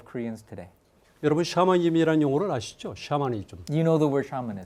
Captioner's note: speaking in Korean